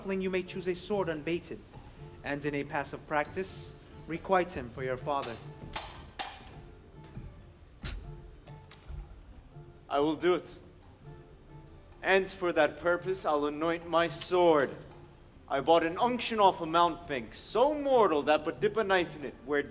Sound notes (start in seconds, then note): 5.7 swords clang